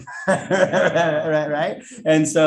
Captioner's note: all laughing